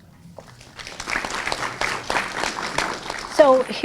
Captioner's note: participants applauding